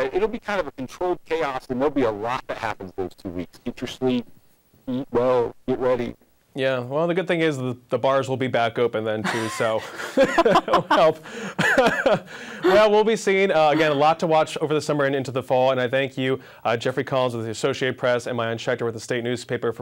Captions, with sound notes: awry. It'll be kind of controlled chaos and there'll be a lot that happens those two weeks. Get your sleep. Be well. Get ready. Yeah well the good thing is that the bars will be back open then too. (laughs) We'll be seeing again a lot to watch over the Summer and into the Fall. And I thank you are Jeffrey Collins of the Associated Press and Maayan Schechter with the State Newspaper for